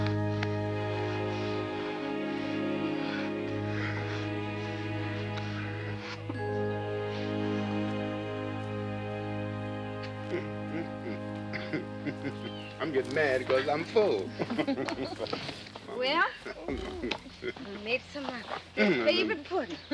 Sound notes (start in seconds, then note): 11.6 chuckles; 14.7 laughing